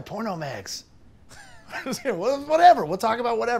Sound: laughing

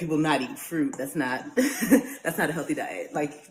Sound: laughs

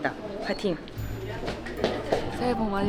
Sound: taptaptap

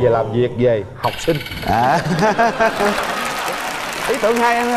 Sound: audience applause

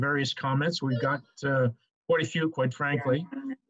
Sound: phone ringing

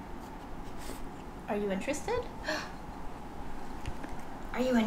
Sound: gasps

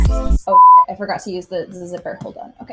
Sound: beeps

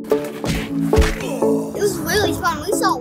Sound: upbeat happy music; body thuds; man grunts

